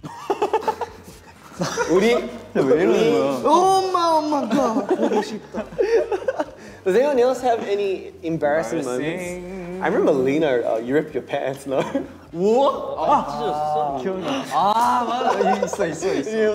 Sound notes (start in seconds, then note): 0.1 laughing; 3.6 speaking in Korean; 12.6 exclaims; 13.5 speaking in Korean